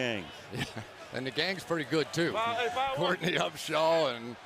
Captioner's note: laughs